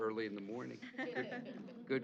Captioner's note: chuckling